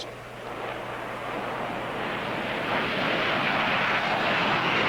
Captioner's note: jet engine roaring